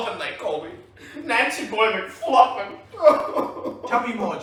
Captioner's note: wails